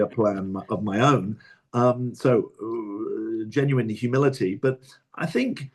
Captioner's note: laughs